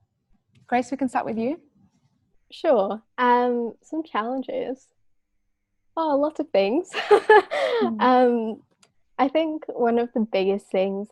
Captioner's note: laughs